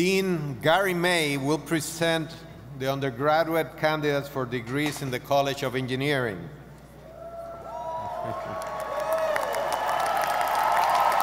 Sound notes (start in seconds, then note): 7.7 audience applauding